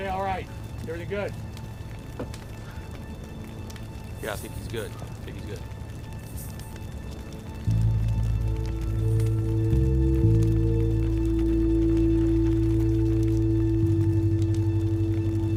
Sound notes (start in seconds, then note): 8.1 fire crackling; 8.1 ominous music